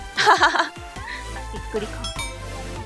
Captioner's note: laugh